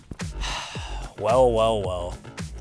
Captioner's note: upbeat music; sighs